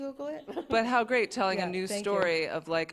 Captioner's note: laughs